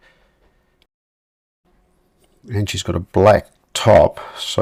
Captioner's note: silence